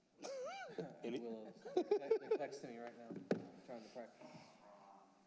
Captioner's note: laughter